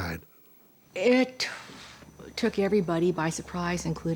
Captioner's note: none